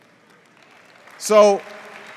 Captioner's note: cheers